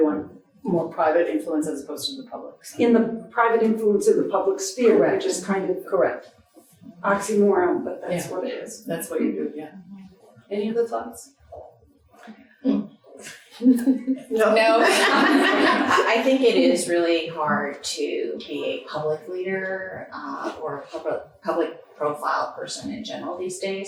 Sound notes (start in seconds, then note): 14.5 audience laughing